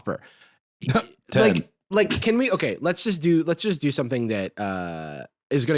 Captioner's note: laughs